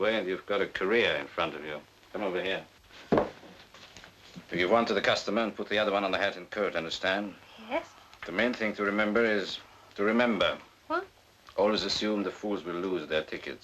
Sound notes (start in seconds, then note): none